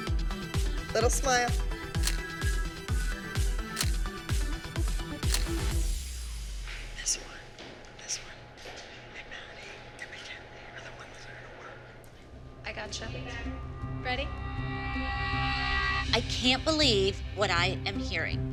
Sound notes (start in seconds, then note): 2.0 camera shutter clicking; 5.6 whispering